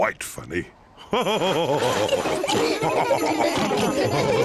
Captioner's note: all laugh